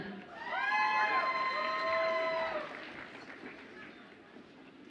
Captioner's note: audience applauds and cheers